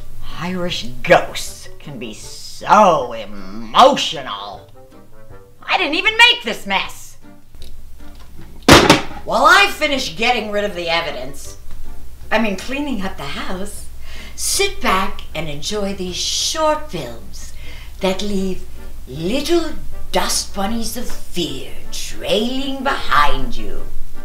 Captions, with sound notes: Irish ghosts can be so emotional. I didn't even make this mess! [VACUUM CLATTERS] While I finish getting rid of the evidence-- (sweetly) I mean, cleaning up the house, Sit back and enjoy these short films that leave little dust bunnies of fear trailing behind you.